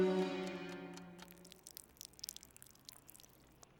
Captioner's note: loud dripping